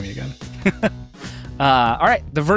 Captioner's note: laughing